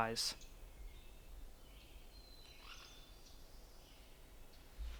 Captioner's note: birds singing